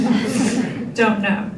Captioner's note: group laughter